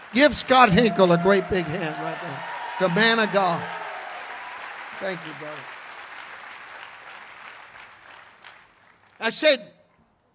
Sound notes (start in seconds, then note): 2.8 congregation cheers